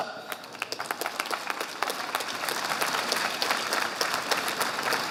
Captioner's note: audience applauding